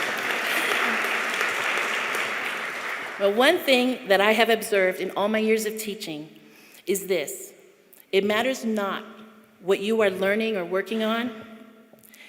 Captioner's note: chuckling